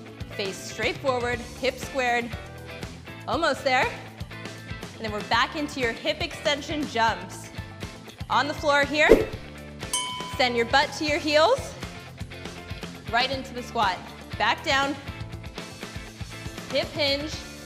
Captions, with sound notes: Face straight forward, hips squared, almost there, and then we're back into your hip extension jumps. On the floor here (air swoosh) (bell chimes), send your but to your heels, right into the squat, back down, hip hinge,